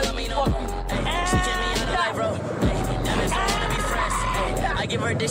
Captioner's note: screaming